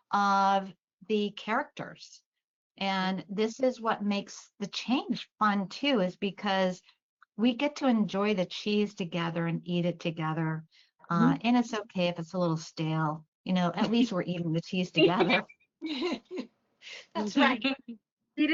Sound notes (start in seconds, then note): 15.0 laughter